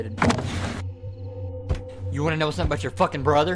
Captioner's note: object thuds